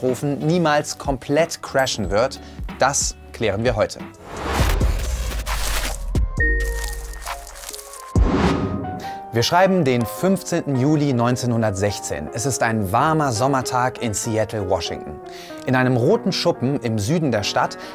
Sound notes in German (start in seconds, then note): 4.4 Lockere Klänge, raschelnde Geräusche; 6.6 Klingeln, knisternde Geräusche